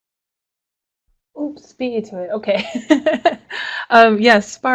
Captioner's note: laughs